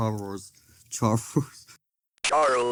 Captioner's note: chuckles